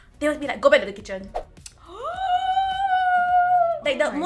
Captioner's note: gasps